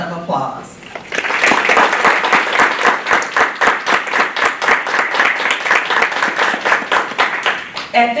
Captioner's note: applause